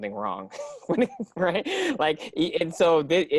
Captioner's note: laughs